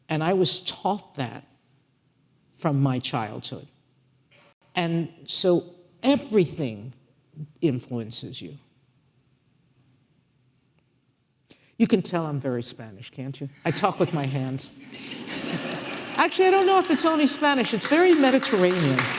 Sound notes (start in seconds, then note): 15.2 audience laughing